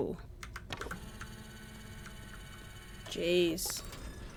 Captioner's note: scanner noises